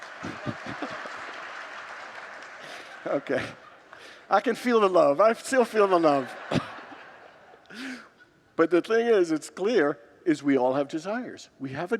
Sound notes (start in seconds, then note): 0.0 congregants laugh and applaud; 5.4 congregants laugh